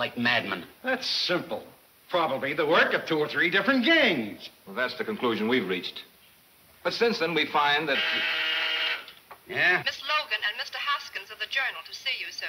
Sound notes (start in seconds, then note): 7.7 intercom buzzing; 9.6 woman On Intercom